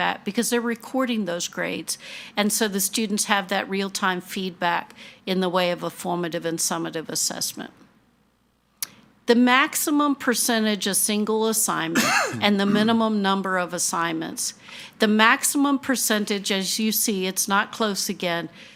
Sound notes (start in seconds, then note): 11.9 attendee coughing